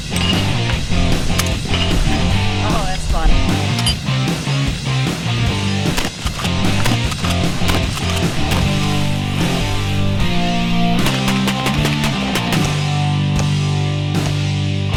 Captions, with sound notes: - Oh that's fun. (rock music) (shells click)